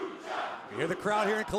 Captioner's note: fans chanting